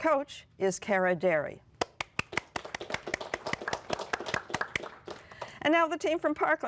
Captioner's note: applause